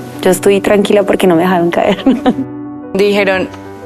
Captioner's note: laughs